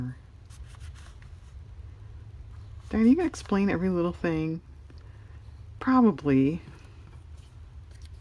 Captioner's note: none